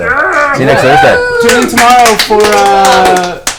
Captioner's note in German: Alle jubeln